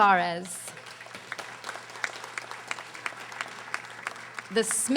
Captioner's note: audience applauding